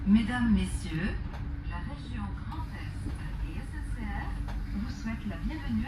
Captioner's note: automated announcement